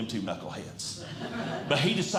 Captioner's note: audience Laughing